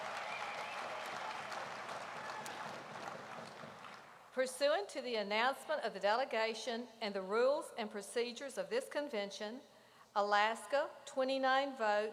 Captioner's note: applause